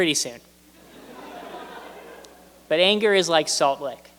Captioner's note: laughter